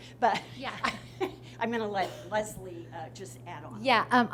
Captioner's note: chuckles